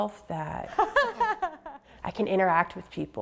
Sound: polite laughter

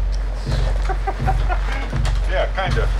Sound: laughing

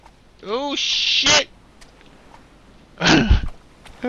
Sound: laughs

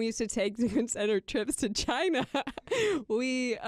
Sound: laughs

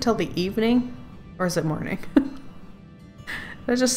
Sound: laughs

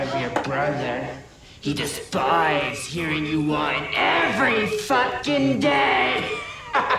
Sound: laughs

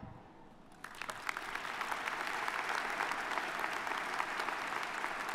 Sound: applause

